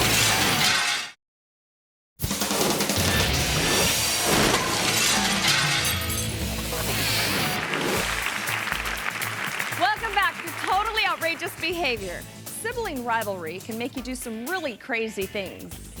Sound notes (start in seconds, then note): 2.2 upbeat music; 7.2 audience applauds